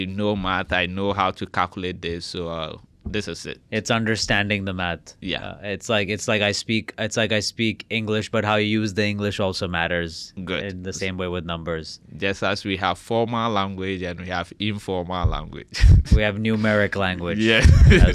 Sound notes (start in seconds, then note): 15.8 laughs